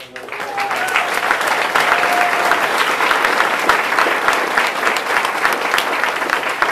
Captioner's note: audience applauding and cheering drowns out speaker